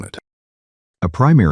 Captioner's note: beat